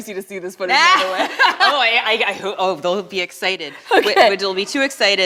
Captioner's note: laughs